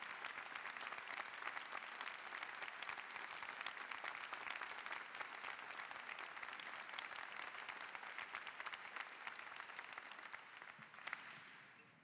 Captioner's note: �applause�